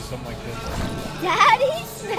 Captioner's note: water splashing